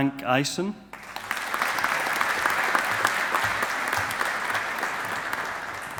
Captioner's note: audience applauding